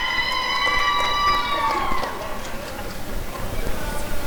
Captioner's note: applause and cheering